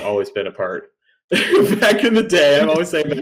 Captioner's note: laughs